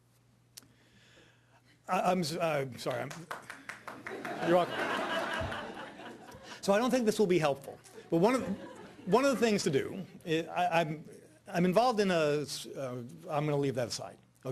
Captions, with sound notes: I'm sorry. (person clapping) (audience laughing) So I don't think this will be helpful. One of the things to do, I'm involved in a, I'm gonna leave that aside.